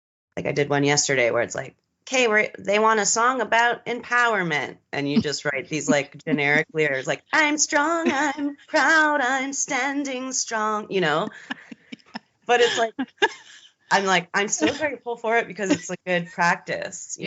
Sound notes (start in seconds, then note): 12.5 both giggling